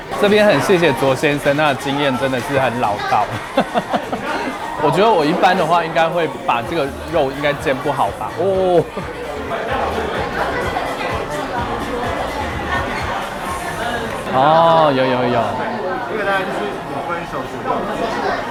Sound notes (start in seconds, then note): 2.9 grateful laughter; 8.5 exclamation